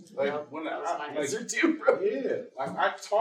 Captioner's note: laughs